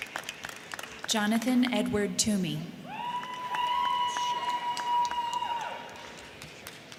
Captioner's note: crowd cheering; crowd cheering